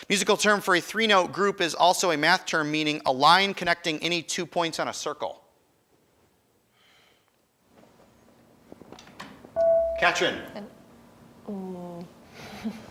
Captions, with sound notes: Musical term for three note group is also a math term meaning a line connecting any two points on a circle. (buzzer chimes) Katrin.